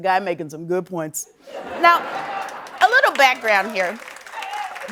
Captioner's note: applause